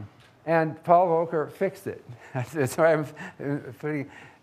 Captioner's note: laughs